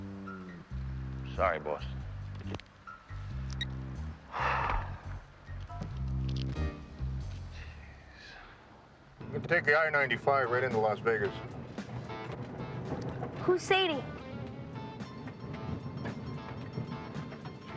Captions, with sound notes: - I'm sorry, Boss. (phone clicks) Geez. - You can take the I95 right into Las Vegas. - Who's Sadie?